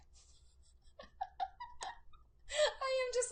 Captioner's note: laughs